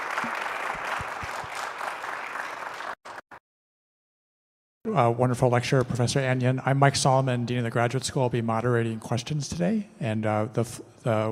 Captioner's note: applause